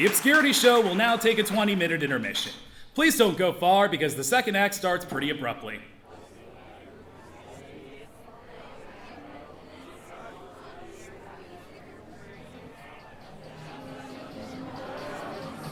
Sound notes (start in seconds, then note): 6.5 audience chattering